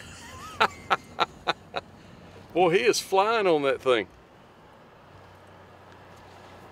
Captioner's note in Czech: Smích